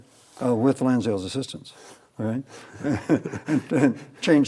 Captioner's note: chuckles